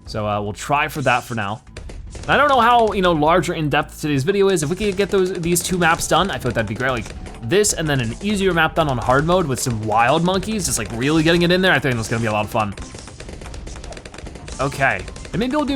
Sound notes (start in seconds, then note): 13.7 weapons firing